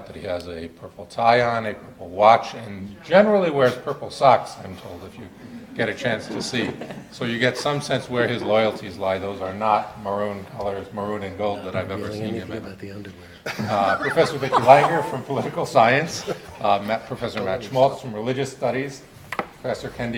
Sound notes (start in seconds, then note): 4.8 audience laughing; 13.4 audience and panel laughing